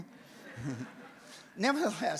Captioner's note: audience laughs